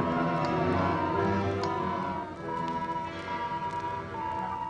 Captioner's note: machines beeping